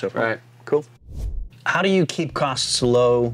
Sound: air swooshing

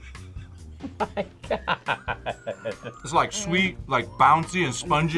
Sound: laughs

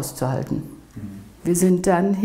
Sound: voicing affirmation

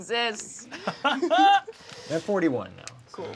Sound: laughs

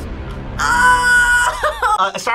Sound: tense music; laughs

